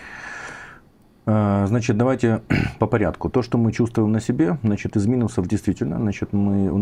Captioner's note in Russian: откашливается